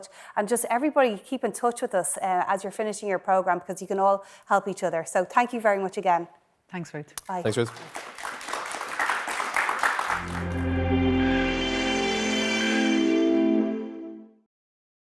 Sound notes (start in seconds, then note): 7.2 audience claps; 10.1 dramatic music